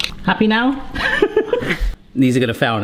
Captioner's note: laughing